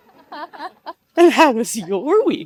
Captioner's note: participants laugh